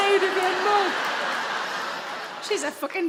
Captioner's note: audience laugh